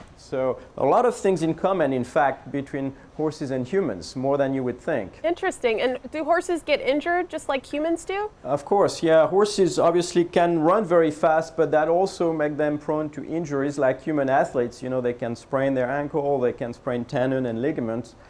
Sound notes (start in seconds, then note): none